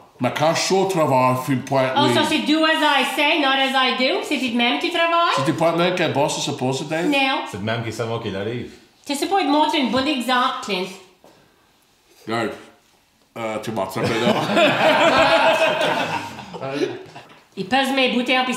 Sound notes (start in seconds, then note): 14.0 laughs